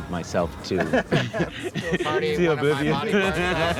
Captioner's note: laughing